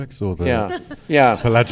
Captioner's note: laughter